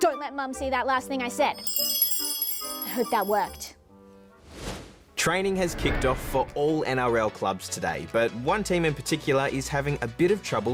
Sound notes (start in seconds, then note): 1.3 magical tinkling